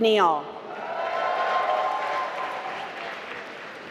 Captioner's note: applause